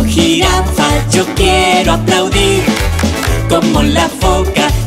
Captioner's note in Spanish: Sonido de aplausos